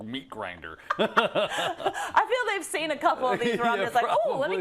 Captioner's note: laugh